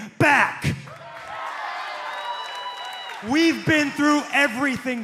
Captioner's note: cheers and applause